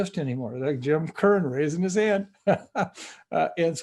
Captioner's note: laughs